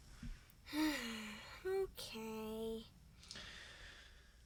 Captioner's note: sighs